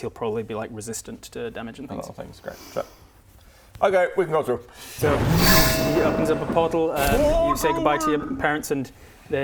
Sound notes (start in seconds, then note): 5.2 vrooom